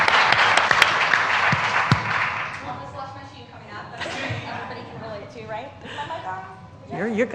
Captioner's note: applause